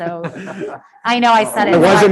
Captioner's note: group laughing